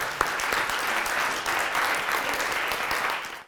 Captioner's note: applause